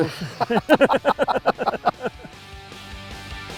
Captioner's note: both laughing